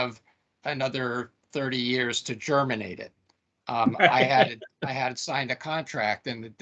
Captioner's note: laughing